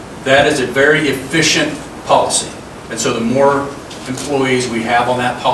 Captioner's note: none